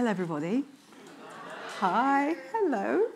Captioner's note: audience speaking indistinctly